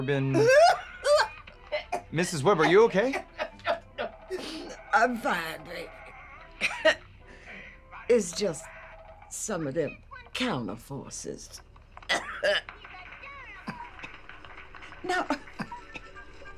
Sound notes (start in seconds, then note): 1.7 Mrs Webb coughing; 3.0 Mrs. Webb coughing; 12.1 Mrs. Webb coughs; 15.1 Mrs. Webb chuckles